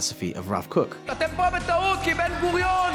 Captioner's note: Bezalel Smotrich speaking in foreign language